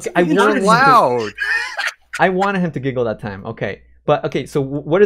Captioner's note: laughs